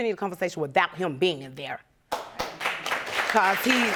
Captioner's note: audience applauding